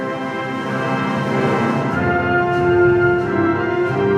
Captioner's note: none